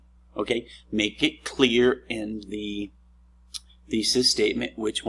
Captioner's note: smacks lips